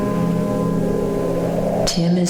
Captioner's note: wind howling